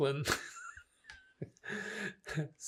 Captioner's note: laughing